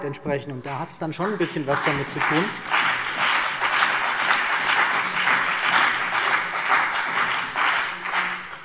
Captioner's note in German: Beifall CDU und BÜNDNIS 90/DIE GRÜNEN